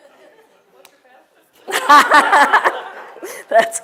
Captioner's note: laugh